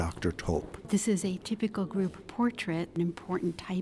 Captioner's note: voiceover